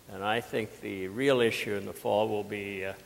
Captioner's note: none